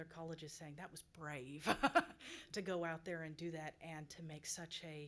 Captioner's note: laughs